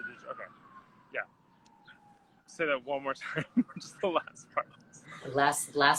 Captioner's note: laughs